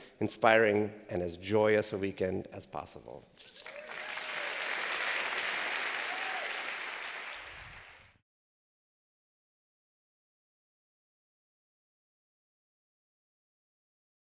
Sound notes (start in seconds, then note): 3.5 applause